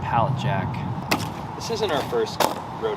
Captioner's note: plastic scraping